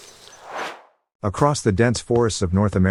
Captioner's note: air swooshes